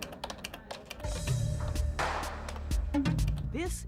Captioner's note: computer keys click